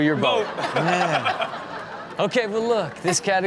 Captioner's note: audience laughing